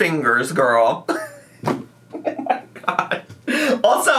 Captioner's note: laughs